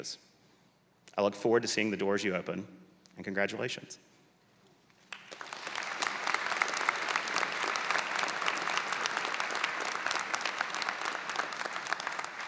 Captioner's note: applause